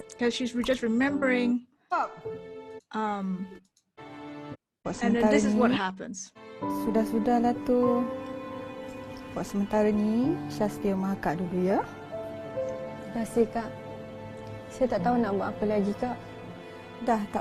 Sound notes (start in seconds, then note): 7.0 speaking in a foreign language; 13.4 speaking in foreign language